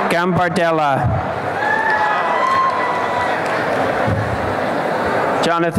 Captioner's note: applause and cheering